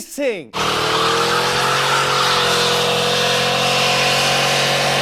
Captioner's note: car engine revving